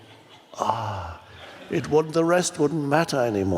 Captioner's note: moans